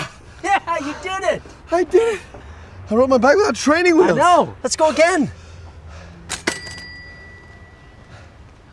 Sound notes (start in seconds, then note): 1.5 breathlessly; 6.4 bell rings